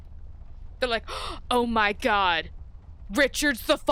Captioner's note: gasp